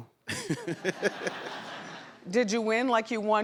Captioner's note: laughs; audience laughs